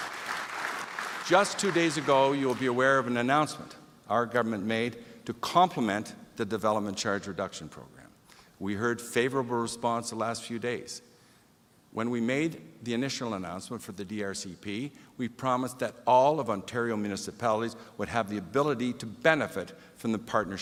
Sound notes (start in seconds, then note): 1.9 applause